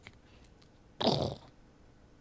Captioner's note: blows raspberry